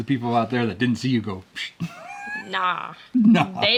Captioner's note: whispering